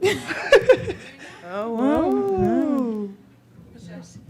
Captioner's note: laughs